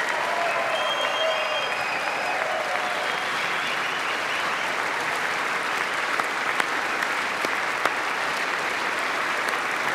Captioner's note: applause